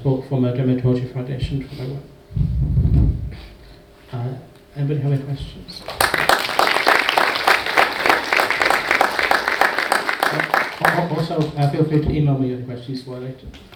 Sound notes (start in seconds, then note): 5.8 audience applauds